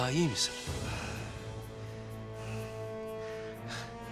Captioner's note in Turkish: Nefes sesi